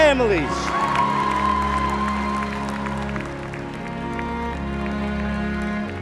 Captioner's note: acclamations et applaudissements bruyants